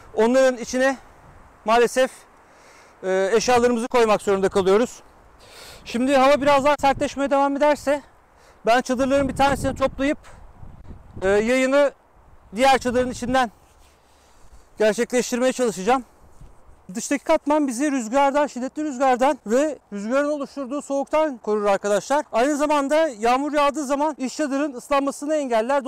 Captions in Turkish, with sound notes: - iç çadırdaki alanı malesef eşyalarımızla paylaşmak zorundakalıyoruz. (Rüzgar sesi) - Şimdi hava biraz daha sertleşirse; - Çadrılarımın bir tanesini toplayıp, - Yayını diğer çadırın içinden sürdüreceğim. - Çadırda dıştaki katman bizi şiddetli rüzgardan ve rüzgarın oluşturduğu soğuktan korur arkadaşlar. - Aynı zamanda yağmur yağdığı zaman iç çadırın ıslanmasını engeller.